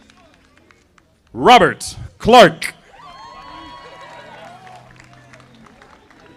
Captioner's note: audience applauding